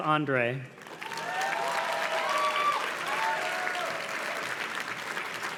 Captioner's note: audience cheers and claps